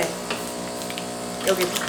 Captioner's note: coffee machine is running